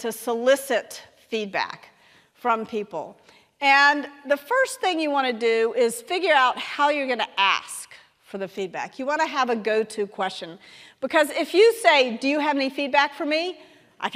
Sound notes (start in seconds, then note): none